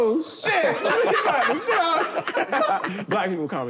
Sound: laughter

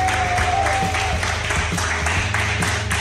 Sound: crowd cheering

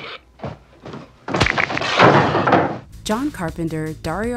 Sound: bones breaking

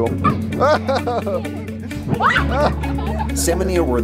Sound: laughs

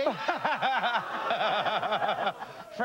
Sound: laughs

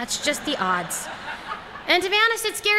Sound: laughter

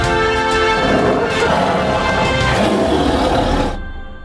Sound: tiger roaring

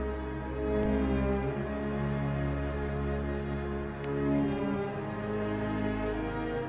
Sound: none

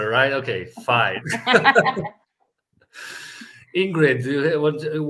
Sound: all laughing

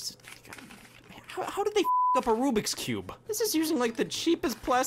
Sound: beep

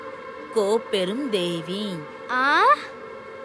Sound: voice from distance

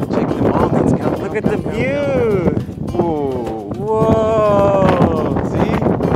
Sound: exclaims

